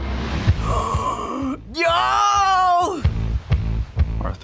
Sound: gasps excitedly

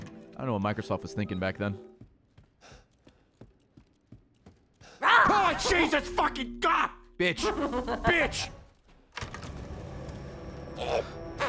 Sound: screams

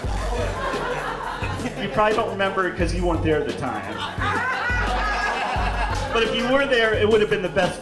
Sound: laughs

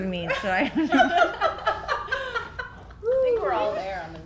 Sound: laughing

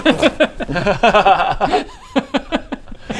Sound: unsympathetic laughter

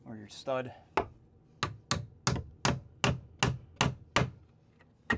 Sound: hammer pounding

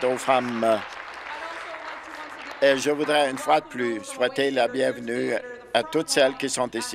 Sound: applause

